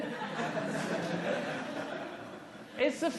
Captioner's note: laughter